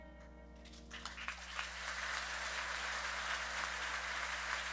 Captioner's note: audience applauding